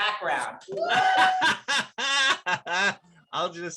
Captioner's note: David laughs